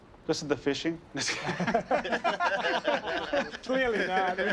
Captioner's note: laughter